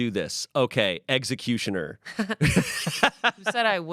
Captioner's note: laughs